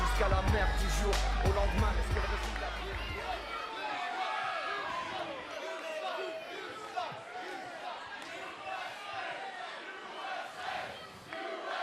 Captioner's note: crowd cheering